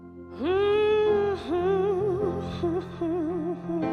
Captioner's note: vocalist humming